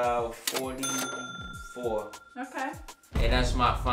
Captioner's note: ka-ching